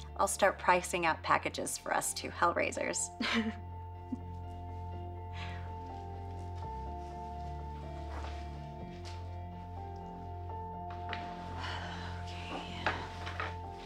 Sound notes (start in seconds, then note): 3.2 Liz and Anne laughing; 5.4 gentle music